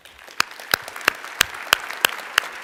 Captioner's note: applause